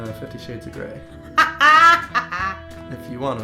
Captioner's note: laughing